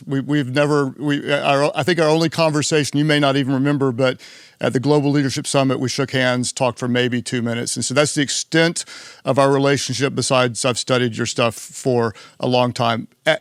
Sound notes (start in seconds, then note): none